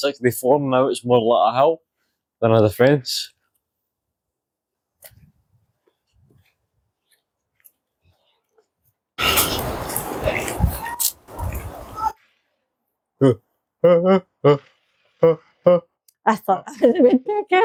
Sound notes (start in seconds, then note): 12.9 laughter